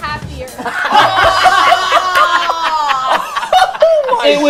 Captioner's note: group laughter